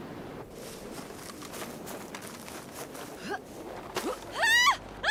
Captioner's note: footsteps running; woman screaming